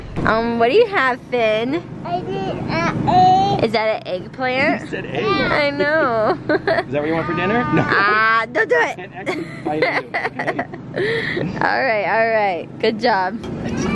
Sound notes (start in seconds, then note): 2.1 babbling; 5.8 laughter; 9.2 laughter